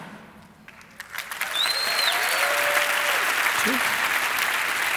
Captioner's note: audience applauding